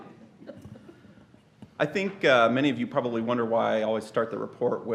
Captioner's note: laughter